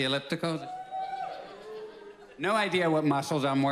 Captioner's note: scattered cheers